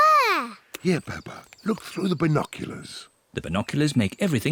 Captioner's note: chirping